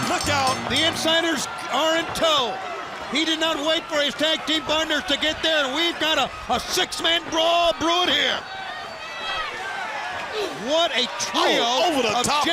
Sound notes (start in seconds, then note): 0.0 bell ringing